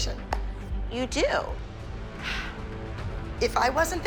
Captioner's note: sighs